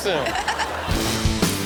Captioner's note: crowd laughing; upbeat rock music